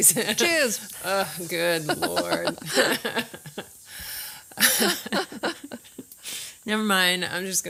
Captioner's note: laughs